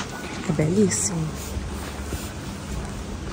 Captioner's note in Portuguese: falando baixo